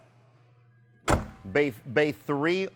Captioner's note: door slams shut